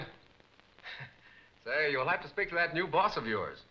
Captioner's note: chuckling